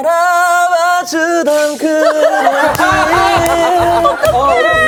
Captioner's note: fails to hold back laughter